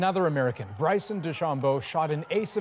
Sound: cheers and Applause

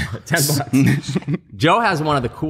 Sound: laughter

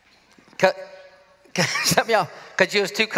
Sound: laughs

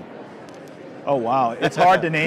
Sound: laughing

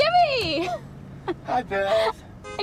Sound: in robotic voice

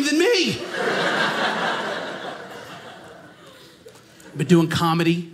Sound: audience laughing

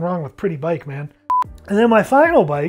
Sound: timer beeping

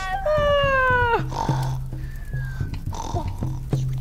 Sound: yawning, snoring

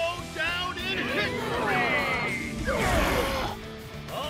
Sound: trucks straining

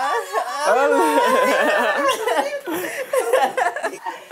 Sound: laughter

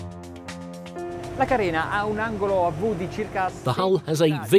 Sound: speaks Italian

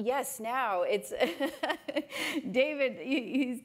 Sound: laughs

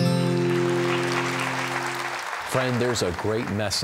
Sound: applause

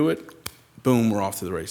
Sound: flesh slaps

